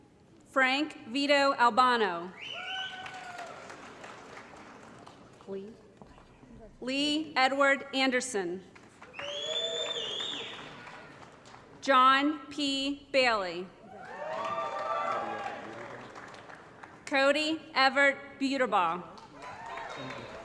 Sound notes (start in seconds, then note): 2.5 applause; 8.9 applause & Cheering; 13.9 applause & Cheering